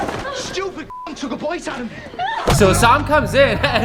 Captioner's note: beep